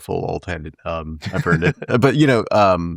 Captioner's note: laughing